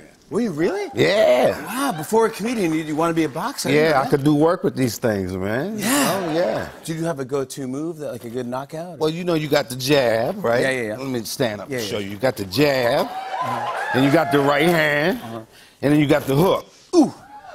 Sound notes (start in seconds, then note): 12.9 cheers